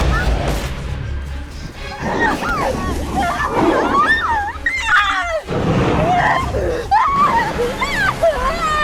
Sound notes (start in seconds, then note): 0.1 Sarah yelps; 0.1 suspenseful music; 2.0 Sarah moaning; 2.0 werewolf growling; 4.6 Sarah screaming